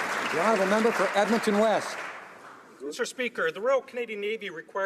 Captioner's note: some Applause